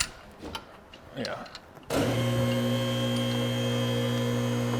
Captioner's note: metal clinking; machine whirring